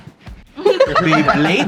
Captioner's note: laughs